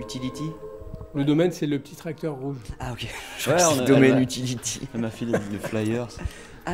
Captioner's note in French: Rire